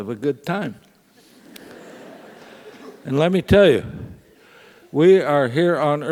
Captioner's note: laugh